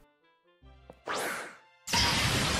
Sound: Pokeball Throw Sound Effect; Pokeball Open Sound Effect

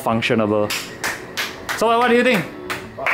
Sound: applause

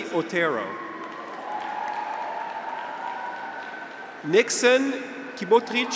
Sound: graduates cheer

